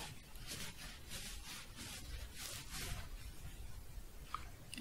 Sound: shuffling

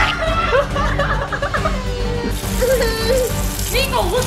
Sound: whimpering

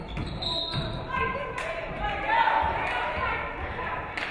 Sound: referee whistles

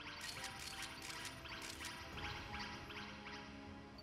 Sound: photo snapping

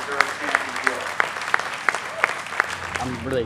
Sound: applause & cheers

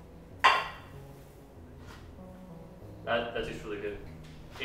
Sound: gentle electronic music; crockery clattering

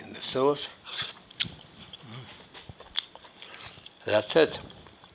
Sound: lips smack and chews

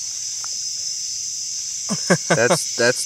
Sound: laughing

